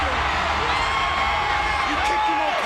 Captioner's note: crowd cheers